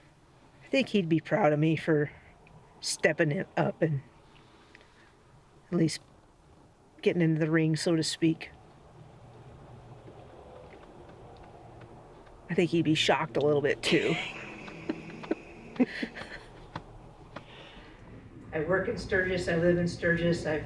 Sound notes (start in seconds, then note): 13.8 chuckles